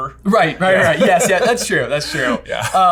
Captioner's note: laughing